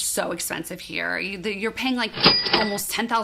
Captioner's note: cash register jingling